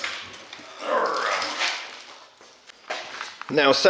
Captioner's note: grunt